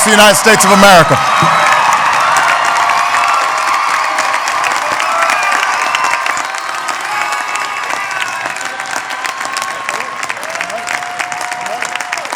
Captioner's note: applause